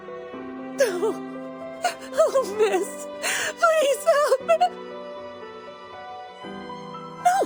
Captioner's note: cry